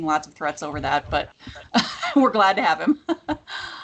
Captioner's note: laughs